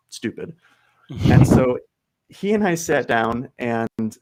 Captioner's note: chuckles